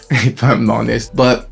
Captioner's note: laughs